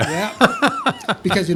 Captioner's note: laughs